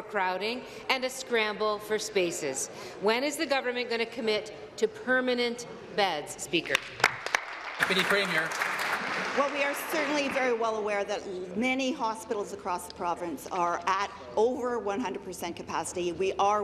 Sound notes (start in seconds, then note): 9.6 applause